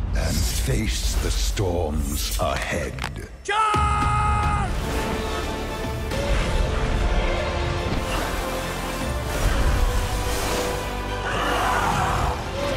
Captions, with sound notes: and face the storms ahead. - Charge! (intense orchestral music) (magic whooshing) (group roars)